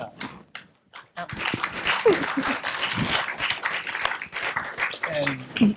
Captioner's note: applause